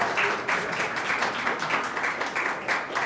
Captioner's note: applause